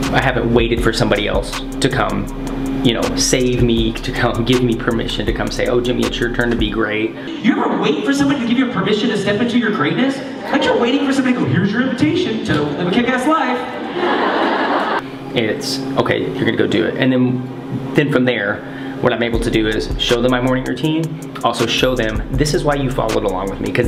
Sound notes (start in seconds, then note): 13.6 audience laughs